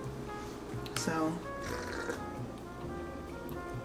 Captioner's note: sips